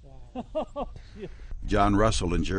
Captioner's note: laughter